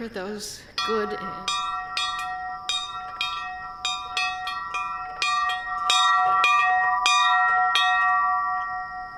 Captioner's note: bell ringing